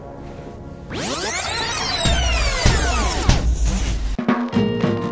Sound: audio tape rewinding

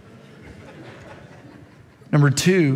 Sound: congregation laughs

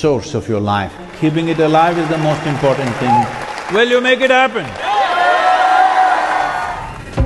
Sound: cheering/Applause

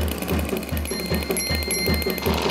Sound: clean dings; reef blower breaks

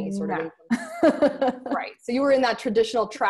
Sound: laughs

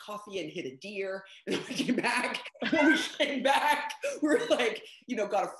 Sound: laughing

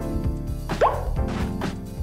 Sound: pop

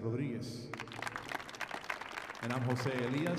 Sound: audience applauding

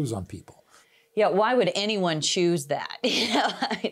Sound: laughs

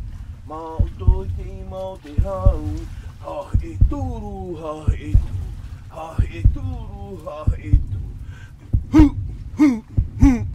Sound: sound of drum; sound of heart beat

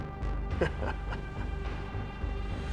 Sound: chuckle

